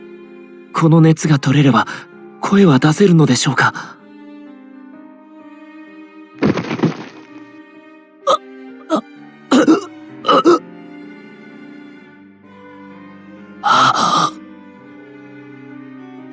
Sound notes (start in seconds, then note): 7.9 coughing